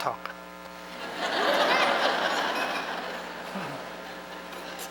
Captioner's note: laughter